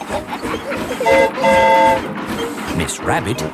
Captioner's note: train whistle toots